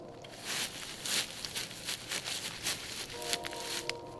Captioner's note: brush rustling